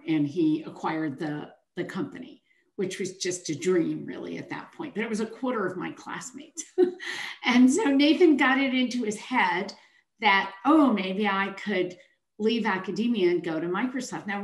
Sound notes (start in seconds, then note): 6.9 chuckles